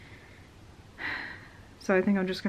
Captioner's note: sigh